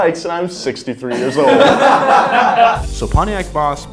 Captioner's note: people laugh